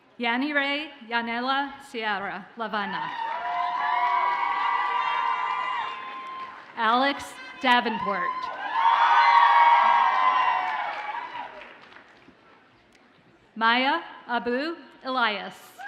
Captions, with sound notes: Yanhire Sierra-Lavalle. (audience cheers and applauds) Alex Davenport. (audience cheers and applauds) Maya Abou-Elias.